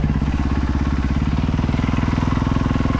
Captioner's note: engine revving